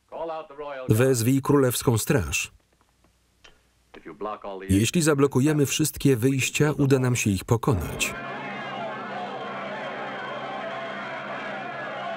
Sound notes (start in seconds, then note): 8.0 yelling